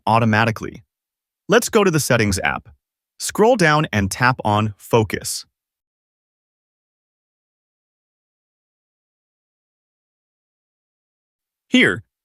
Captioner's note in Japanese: サイレント